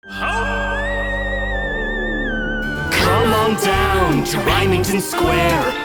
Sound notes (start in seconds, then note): 0.0 spooky music; 0.3 wolf howls